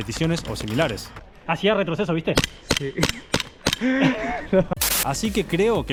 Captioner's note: laughing